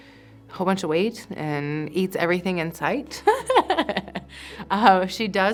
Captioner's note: chuckling